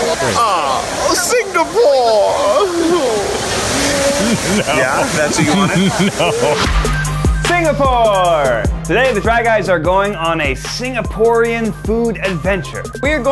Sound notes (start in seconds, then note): 6.2 laughs; 6.9 upbeat hip-hop music